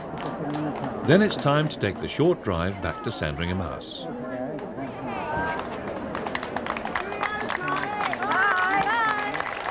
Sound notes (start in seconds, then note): 4.9 chattering; 5.5 applauding